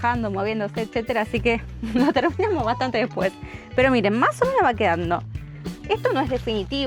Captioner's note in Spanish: risas